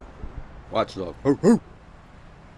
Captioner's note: barking sound